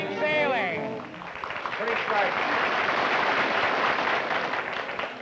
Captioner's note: applause